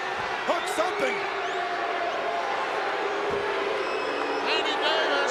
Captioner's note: crowd booing